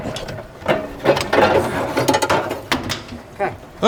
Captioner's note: fuel tank rattles softly